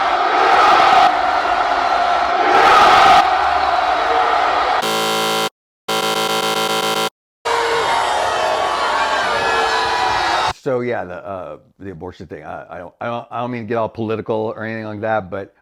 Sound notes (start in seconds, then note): 0.0 crowd roars; 1.8 buzzers; 4.8 crowd boos